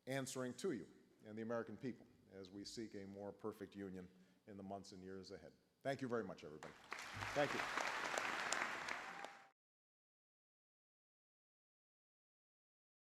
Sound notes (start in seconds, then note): 6.6 applause